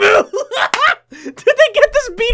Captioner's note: laughing